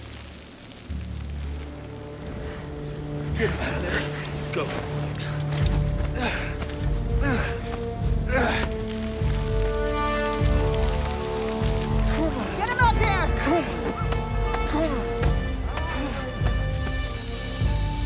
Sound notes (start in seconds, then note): 6.0 grunting